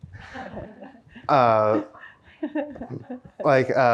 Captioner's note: audience chuckles